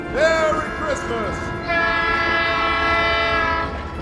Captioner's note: train horn honking